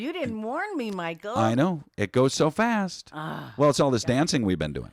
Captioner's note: sighs